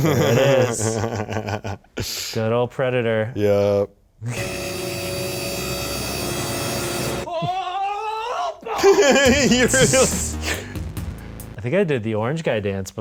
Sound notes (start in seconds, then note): 7.3 young screaming; 10.1 laughing